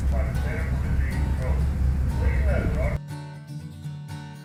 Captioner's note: ferry announcements